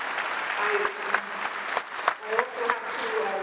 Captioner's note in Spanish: aplausos